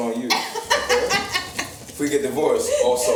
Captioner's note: laughs